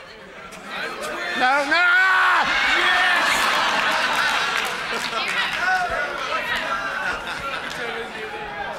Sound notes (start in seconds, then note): 1.5 yelling